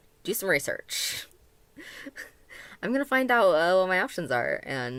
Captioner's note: chuckle